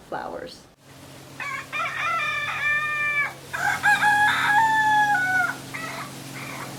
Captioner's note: rooster crowing